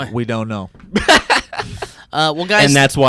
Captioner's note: laughs